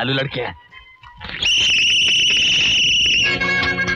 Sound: whistling

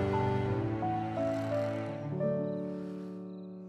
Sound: all snoring

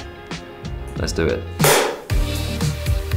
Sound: clapper bangs loudly

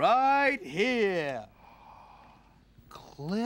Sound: gasps

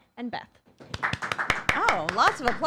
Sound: applause

